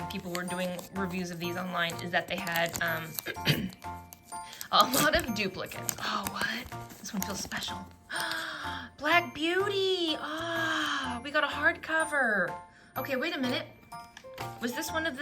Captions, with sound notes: people were doing reviews of these online is that they had, um, a lot of duplicates. Oh, what?! This one feels special! *Gasps* "Black Beauty!" Ahh! We got a hard cover. OK, wait a minute. Was this one of